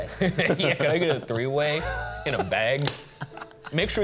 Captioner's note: laughing